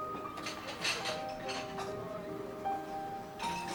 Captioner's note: dishes Clattering